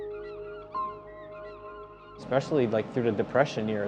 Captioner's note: tender instrumental music; birds calling